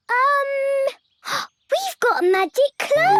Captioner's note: gasps